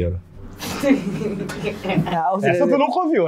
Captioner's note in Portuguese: risadas